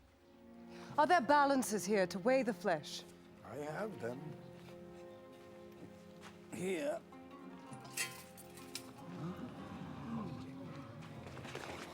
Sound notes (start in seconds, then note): 8.5 crowd gasp